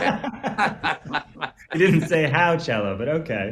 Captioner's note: both laugh